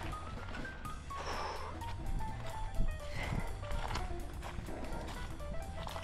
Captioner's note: huffing and puffing